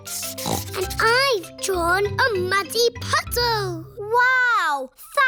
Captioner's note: snorts